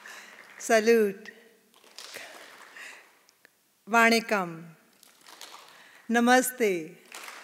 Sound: audience clapping in response to each

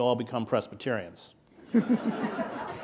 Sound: laughter

